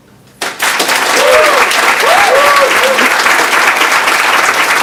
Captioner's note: audience applauds